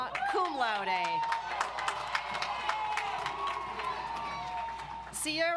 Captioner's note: audience applauds